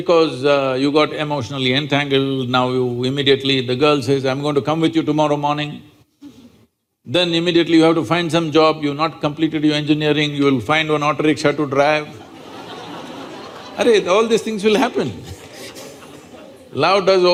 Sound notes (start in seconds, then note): 12.1 laughter